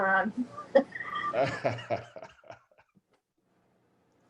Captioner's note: laughs